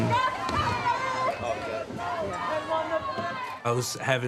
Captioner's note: soldier cheering